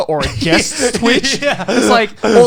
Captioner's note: Garnt laughing